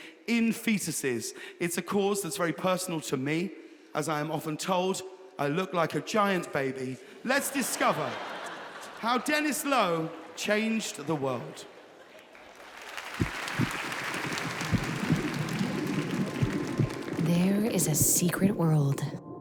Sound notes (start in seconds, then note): 7.3 audience laughing; 13.2 heartbeat effect; 14.0 audience applauding